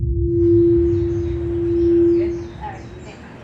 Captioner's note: mic feedback